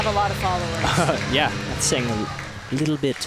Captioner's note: laughs